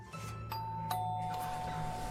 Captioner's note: doorbell rings